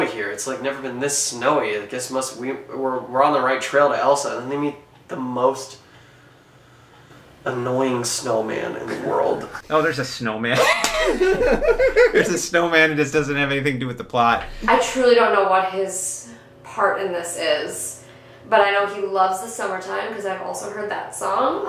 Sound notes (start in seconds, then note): 6.6 angry exhausted silence; 10.5 both laugh